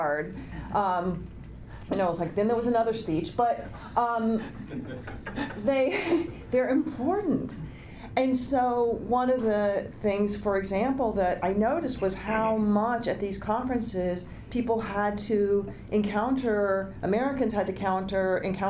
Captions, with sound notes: I tried really hard. You know, it's like then there was another speech. (laughter) They're important. And so, one of the things for example, that I noticed was how much at these conferences people had to encounter, Americans had to encounter